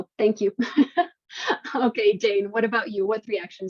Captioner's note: chuckles